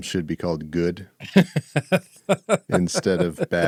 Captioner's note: laughing